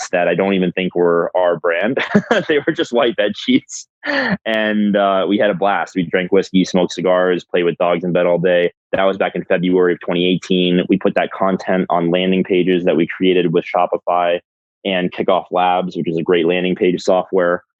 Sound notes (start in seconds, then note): 0.0 laughs